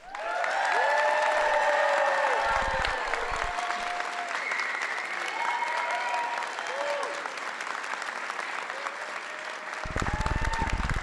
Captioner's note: applause